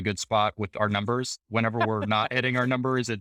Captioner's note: laughing